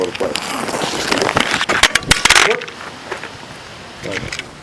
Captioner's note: drops phone